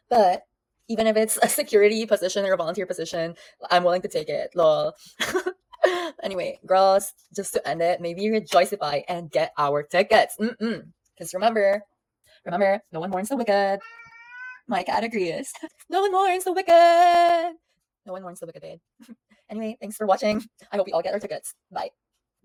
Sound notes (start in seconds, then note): 13.8 meows